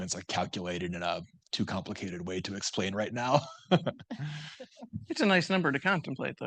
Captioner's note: laughs